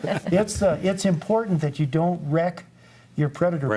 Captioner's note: group laughs